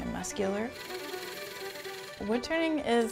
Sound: lathe buzzing

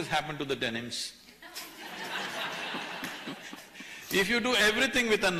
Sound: laughter

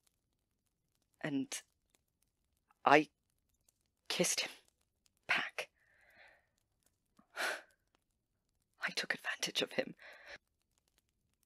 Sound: Remus sighs

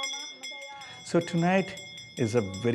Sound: chanting

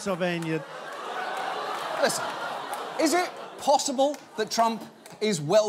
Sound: audience laughing

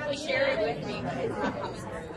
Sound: voiceover

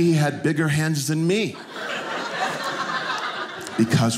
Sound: audience laughing

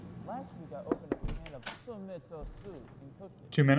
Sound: knocking

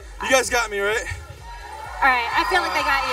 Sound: cheering

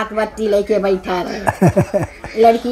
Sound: laughs

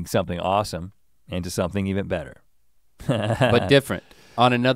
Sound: chuckles

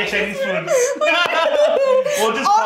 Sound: both laughing

